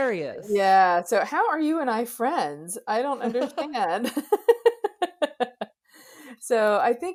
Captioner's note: laughs